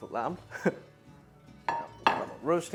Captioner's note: chuckles